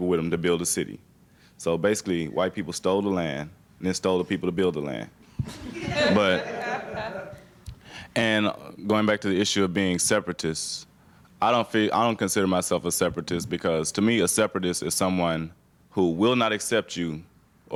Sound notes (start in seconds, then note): 5.4 students chuckling